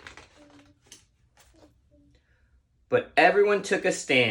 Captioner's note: page turning